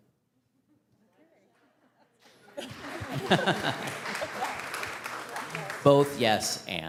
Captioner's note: audience clapping; laughing